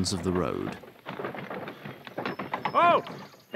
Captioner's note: muffled, through sack